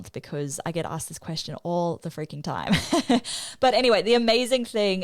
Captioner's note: chuckles